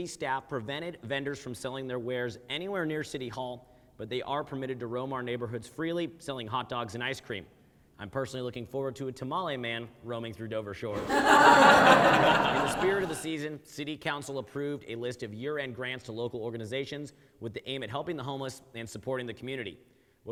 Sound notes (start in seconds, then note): 10.9 audience laughs